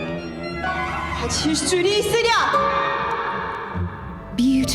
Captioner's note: dramatic percussive music; woman speaking in Korean language